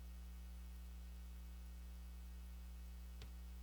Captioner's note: none